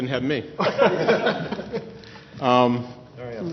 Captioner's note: laughter